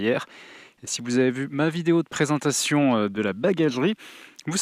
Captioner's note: in french